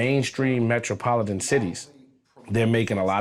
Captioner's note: none